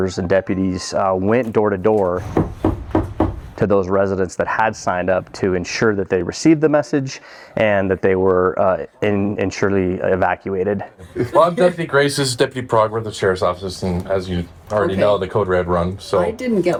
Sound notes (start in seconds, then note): 2.2 door knocking